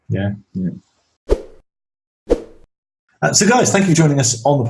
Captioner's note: whooshing